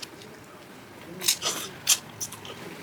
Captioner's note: slurps